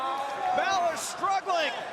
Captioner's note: crowd chatter